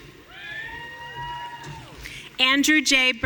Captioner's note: audience cheering